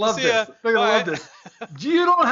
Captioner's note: laughs